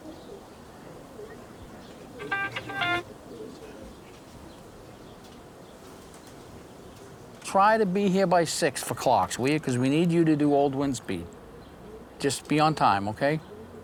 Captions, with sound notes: (phone ringing) Try to be here by six for "clocks". 'Cause we need you to do old wind speed. Just be on time. Okay?